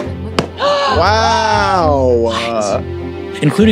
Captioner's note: players gasp